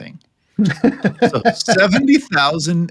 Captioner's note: laughing